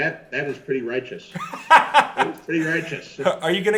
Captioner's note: laughs